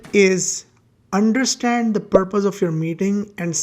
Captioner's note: bubble popping